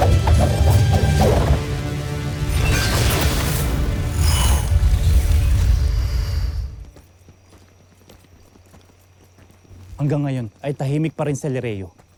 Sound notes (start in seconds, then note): 0.2 weapon swooshes; 2.1 infernal whoosh-crackle; 2.6 swords swoosh; 5.2 energy whoosh-crackle; 6.8 footsteps padding